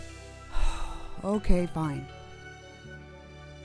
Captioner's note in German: Seufz